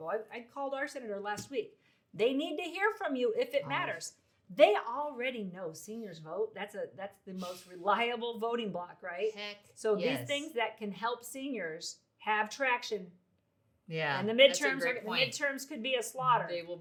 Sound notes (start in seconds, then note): 6.5 laughs